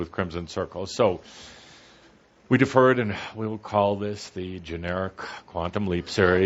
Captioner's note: speaking in an exaggeratedly bland voice